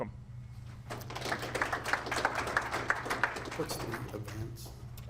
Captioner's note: audience applauds